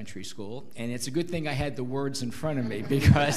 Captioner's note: laughs